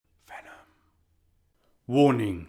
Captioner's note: whispered